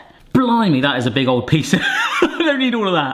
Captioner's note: laughs